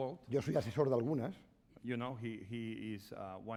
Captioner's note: speaking spanish